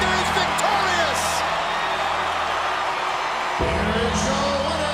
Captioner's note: crowd cheering